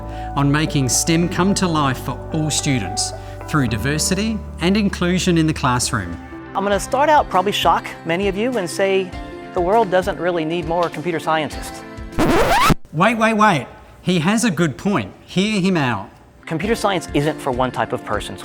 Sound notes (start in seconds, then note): 12.2 record scratch